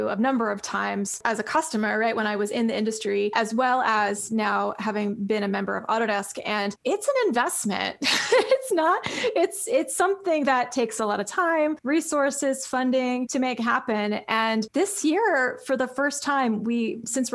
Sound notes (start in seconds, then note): 8.0 laughs